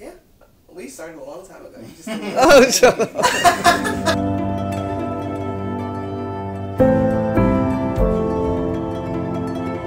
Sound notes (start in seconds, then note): 2.0 laughing; 5.0 soft music